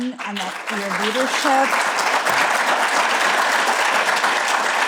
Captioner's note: applause